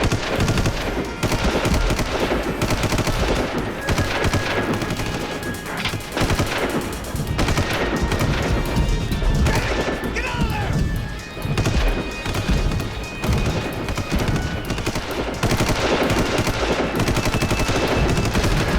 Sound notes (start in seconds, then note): 2.9 gunshot; 11.5 gunshot